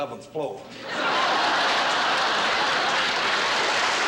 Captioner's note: laughter; applause